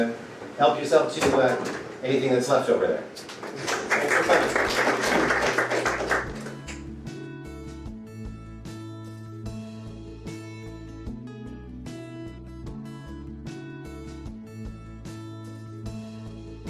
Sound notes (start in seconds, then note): 3.2 audience applauses